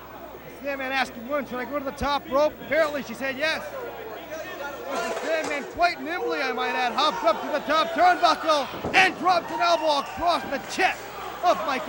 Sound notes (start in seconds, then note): 3.8 crowd chatter; 9.1 crowd chatter